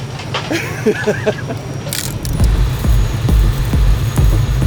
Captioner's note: person laughs; upbeat suspenseful music